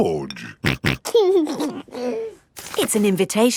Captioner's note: snorting and giggling